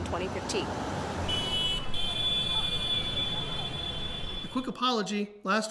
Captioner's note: horns blaring